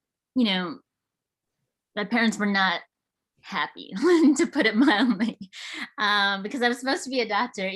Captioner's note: laughs